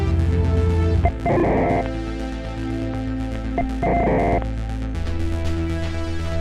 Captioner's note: distorted electronic tones ring